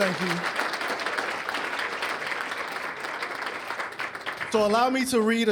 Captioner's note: applause